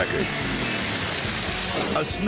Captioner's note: engine revving; mud splashing